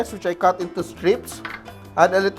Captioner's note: clink